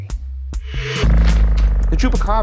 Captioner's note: transition whirring